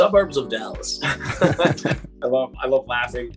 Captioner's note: all laughs